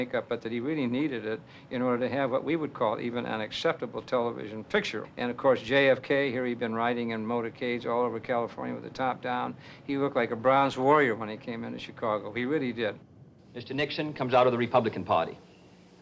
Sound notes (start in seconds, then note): none